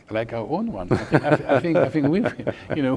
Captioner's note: laughing